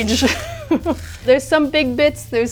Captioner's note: laughs